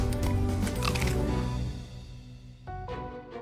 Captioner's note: crunching